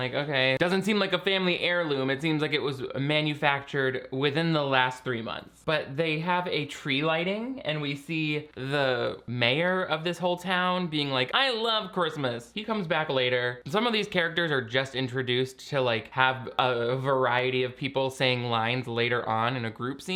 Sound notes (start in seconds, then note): none